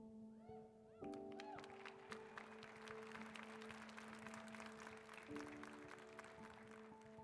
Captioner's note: applause